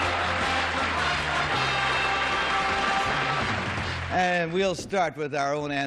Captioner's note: theme music; applause